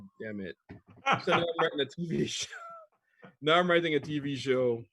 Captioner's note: laughs